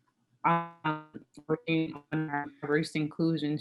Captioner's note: audio breaks